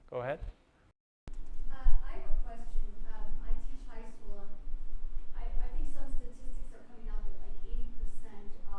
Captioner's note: voiceover